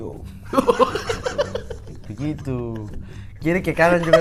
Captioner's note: laughing